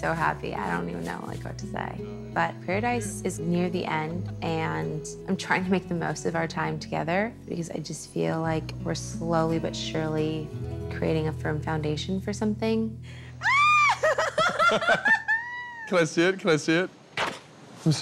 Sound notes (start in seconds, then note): 13.7 both laughing